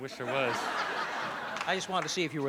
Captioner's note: laughter